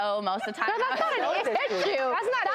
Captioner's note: audience laughs